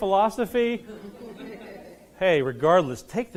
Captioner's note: laughing